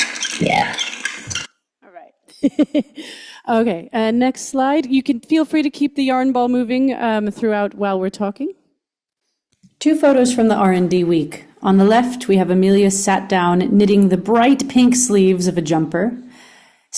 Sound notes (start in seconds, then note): 2.2 laughs